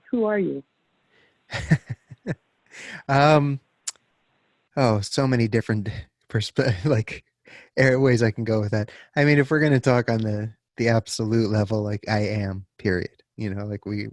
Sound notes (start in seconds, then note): 1.5 chuckles